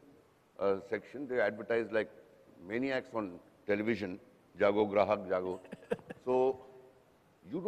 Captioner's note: non-english speech